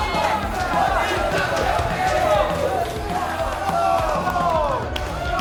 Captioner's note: crowd chanting loudly